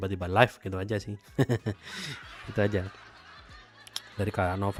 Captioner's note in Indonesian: tertawa